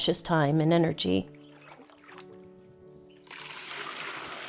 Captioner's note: water sloshing